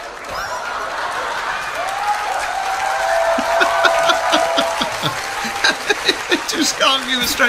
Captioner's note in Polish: Aplauz